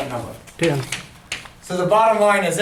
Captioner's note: voiceover